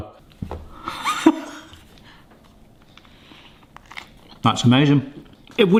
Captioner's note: laughs